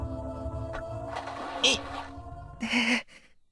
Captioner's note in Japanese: 地面を転ぶ音：ズシャァ･･･